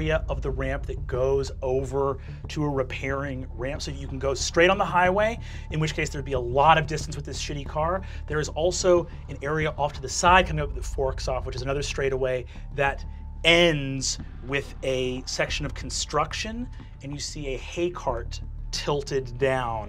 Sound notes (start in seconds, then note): none